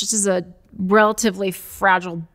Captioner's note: none